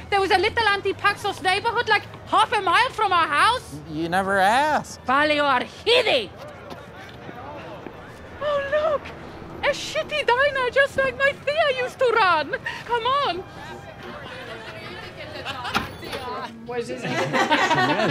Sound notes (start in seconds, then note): 5.1 non-english speech; 15.2 laughter